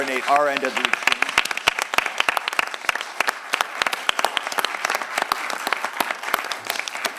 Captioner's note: applause